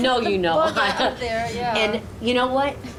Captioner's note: laughing